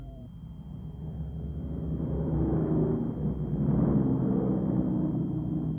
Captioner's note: plane engines roaring